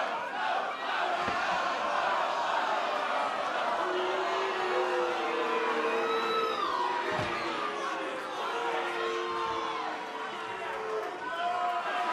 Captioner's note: fans chanting